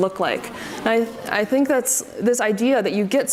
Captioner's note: audience murmurs